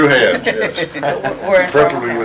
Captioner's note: laughter